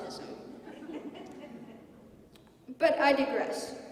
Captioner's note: laughter